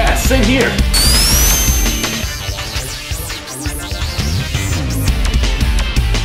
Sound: feet whirring; upbeat music continues

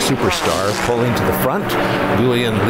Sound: aircraft engine whining

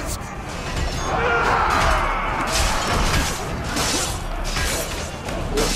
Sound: fighting sounds

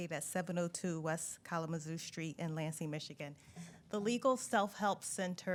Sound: none

